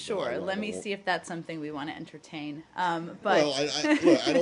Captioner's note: laughter